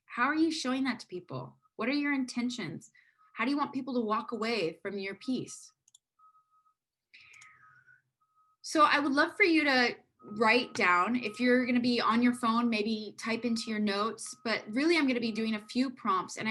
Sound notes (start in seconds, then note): 7.2 mouse clicking